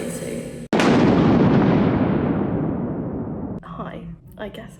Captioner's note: thunder claps